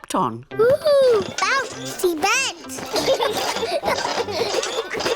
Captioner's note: children laugh